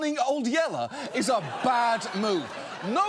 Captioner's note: audience laughs